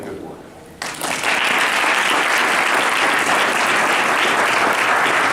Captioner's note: applause